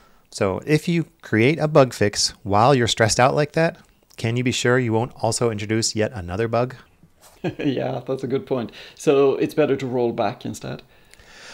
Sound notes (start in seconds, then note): 7.3 laughs